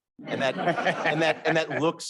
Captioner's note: all laughing